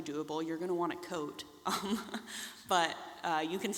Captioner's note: laughs